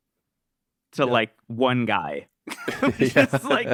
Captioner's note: laughs